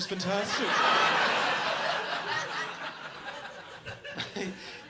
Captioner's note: audience laughs